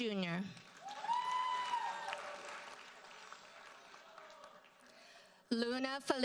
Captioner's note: audience cheers and applauds